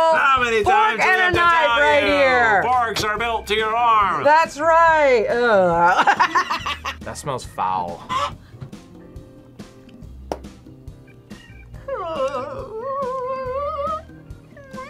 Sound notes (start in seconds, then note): 5.4 laughs; 8.0 chicken clucks; 11.4 whimpers